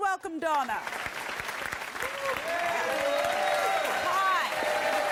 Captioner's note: audience applauding